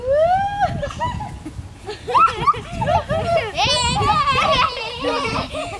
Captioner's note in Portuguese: Risos